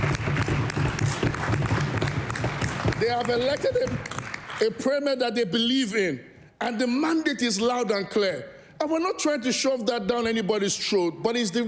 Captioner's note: applause